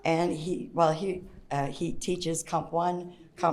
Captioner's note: none